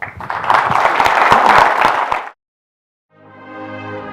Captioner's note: audience applauds; light music